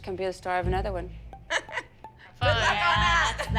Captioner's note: laughter